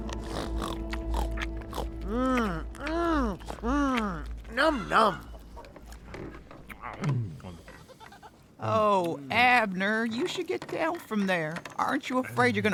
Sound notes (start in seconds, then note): 0.0 snorts; 7.6 Abner happily chomping; 7.7 goat bleats